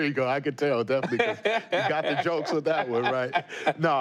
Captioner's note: laughter